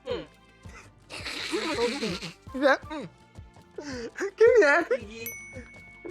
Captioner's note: laughs